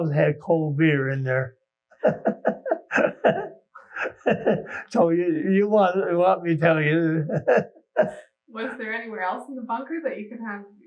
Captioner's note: laughing